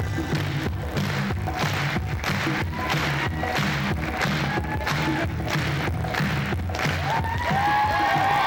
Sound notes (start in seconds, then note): 5.3 cheers, applause